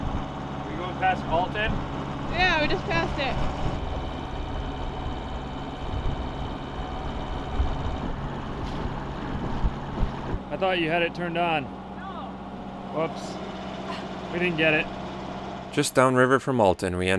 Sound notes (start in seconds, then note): 13.8 laughs